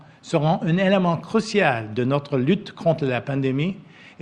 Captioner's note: speaks French